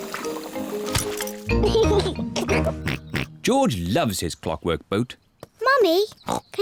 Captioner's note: giggles